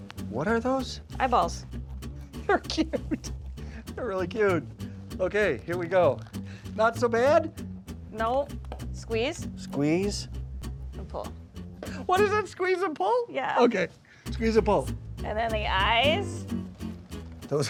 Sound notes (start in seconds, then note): 2.4 laughs